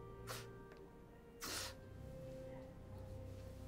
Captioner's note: Darnell crying